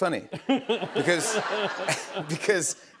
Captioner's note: laughter